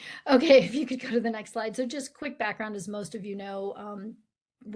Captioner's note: none